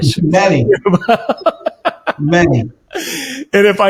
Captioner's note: both laugh